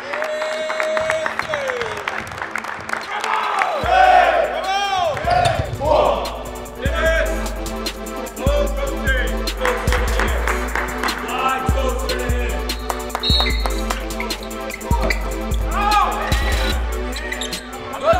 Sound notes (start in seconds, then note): 5.8 players shouting; 9.6 clapping; 13.1 mid-tempo music